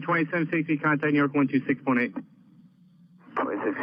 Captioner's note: men chattering